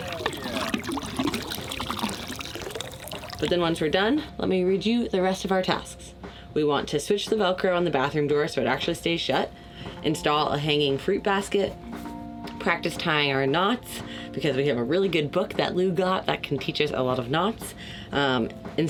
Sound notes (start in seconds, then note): 0.0 water splashing